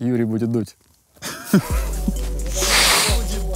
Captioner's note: both laugh